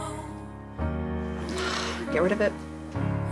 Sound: angelic choir music; sighs

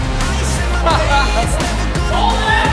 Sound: laughter

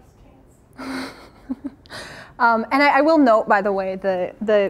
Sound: chuckles

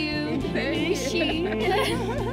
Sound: speaking foreign language; all laughing

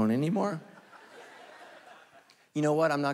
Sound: congregation laughing

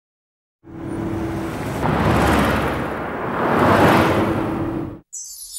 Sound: engines revving

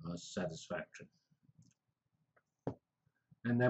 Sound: pause

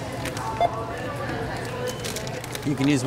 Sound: scanner beeps

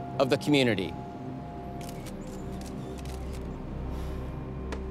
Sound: camera shutters clicking

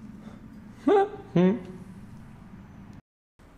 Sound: confused noises

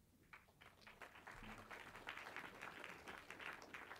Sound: clapping

